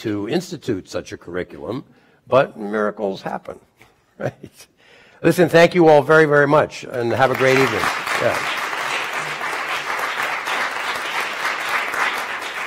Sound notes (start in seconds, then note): 6.9 applause